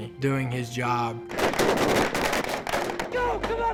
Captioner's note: gunfire